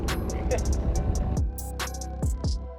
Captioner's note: man laughing; intense music